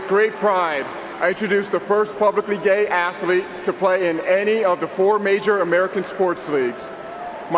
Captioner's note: cheering and applause